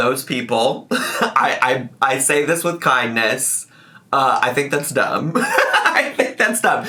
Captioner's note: laughs